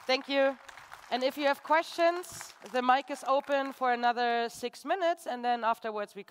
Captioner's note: applause